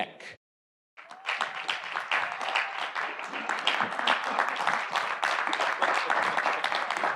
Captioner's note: audience applauding; audience cheering